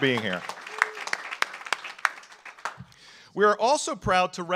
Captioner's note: audience applauds